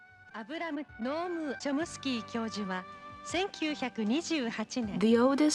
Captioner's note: speaking in foreign language